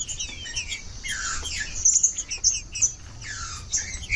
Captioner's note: trinca ferro cantando